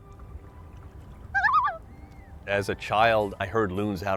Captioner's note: loon calling